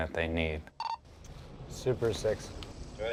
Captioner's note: radio beeping